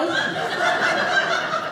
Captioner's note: audience laughing